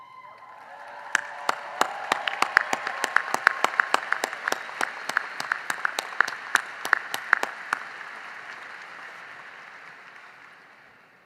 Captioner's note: cheering and applause